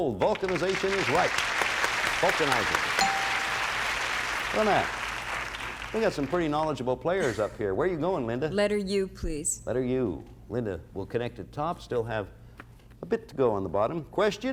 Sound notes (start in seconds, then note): 2.9 cheers and applause; 3.0 bell rings